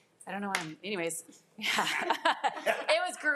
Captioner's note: laughs